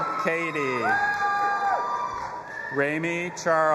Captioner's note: audience applauding and cheering